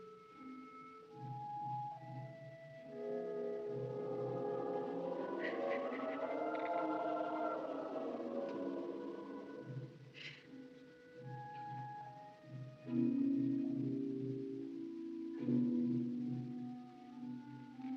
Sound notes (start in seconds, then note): 4.0 laughing